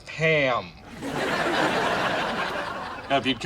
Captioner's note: laughs